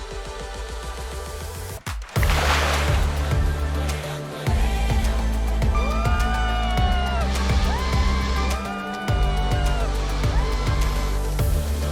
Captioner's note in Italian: Applauso